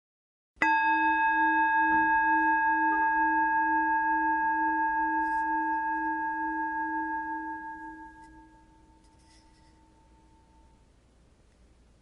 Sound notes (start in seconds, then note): 0.6 chime